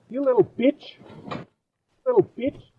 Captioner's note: thud